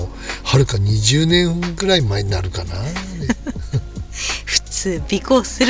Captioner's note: laughs